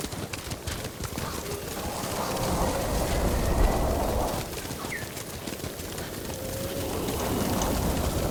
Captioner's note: thunder rumbling; whistling; thunder rumbling